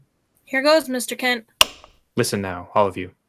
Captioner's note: click of switch